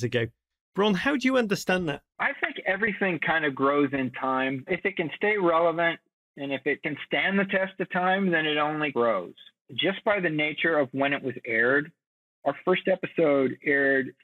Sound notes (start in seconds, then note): none